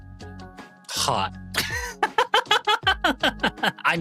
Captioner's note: laughing